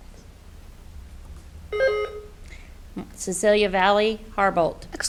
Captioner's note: buzzer beeps